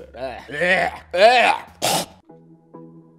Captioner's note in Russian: блевотные стоны